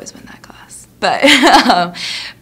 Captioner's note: laughingly